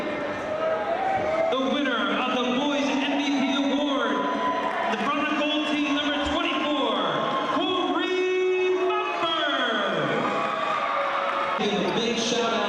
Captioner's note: applause